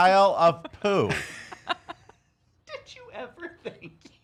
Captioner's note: laughing